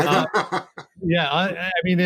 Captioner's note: laughing